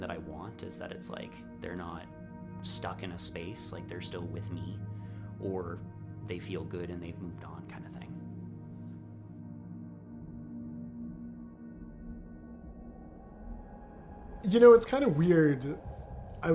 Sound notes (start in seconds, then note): 9.8 music fades; 12.2 haunting forest atmospherics